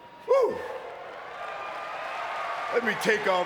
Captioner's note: audience cheering